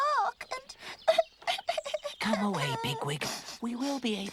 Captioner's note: crying